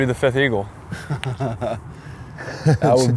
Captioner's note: laughs